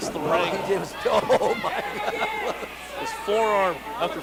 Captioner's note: laughs